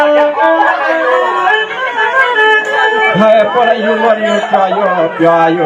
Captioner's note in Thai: ปรบมือ